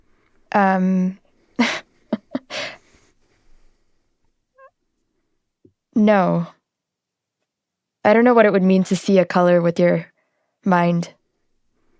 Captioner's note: laughs